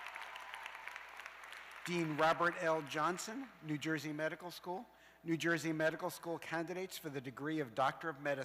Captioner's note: cheers and applause